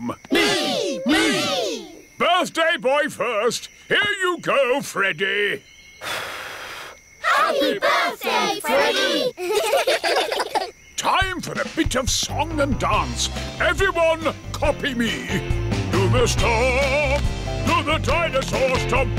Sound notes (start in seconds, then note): 6.0 blows; 9.0 children giggle